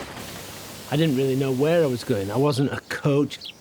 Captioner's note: water spraying